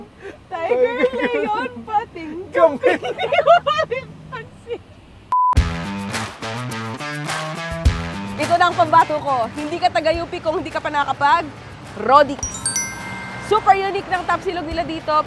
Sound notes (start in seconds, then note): 4.4 chuckles